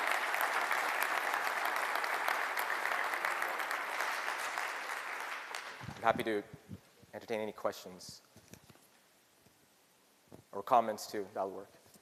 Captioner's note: applause